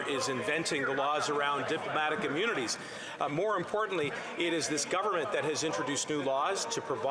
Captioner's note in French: voix de l'interprète